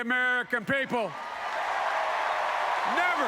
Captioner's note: applause